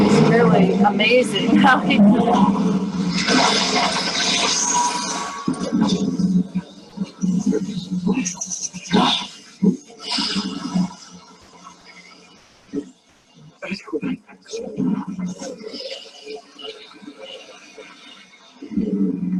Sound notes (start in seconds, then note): 6.1 shaking and disruption sounds - no words